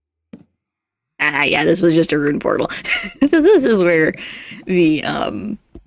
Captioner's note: laughs